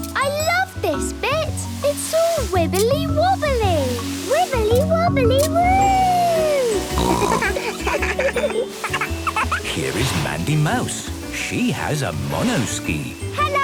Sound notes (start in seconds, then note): 6.8 snorting; 6.9 giggling; 7.3 laughter